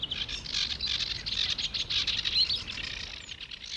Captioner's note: bird tweeting